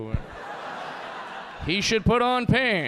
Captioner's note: audience laughing